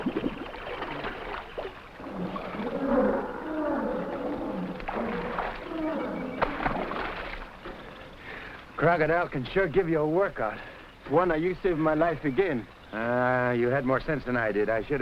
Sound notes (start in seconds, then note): 1.9 animals groaning; 3.0 water sloshing